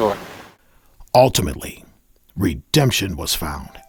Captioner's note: voiceover